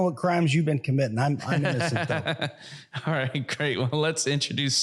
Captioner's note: laughs